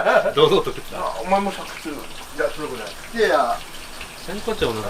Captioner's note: laughs